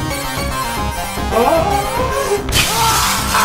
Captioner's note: screaming with fear; glass shoots